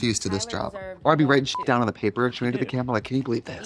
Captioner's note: beep